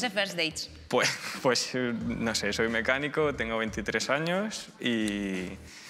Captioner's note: laughs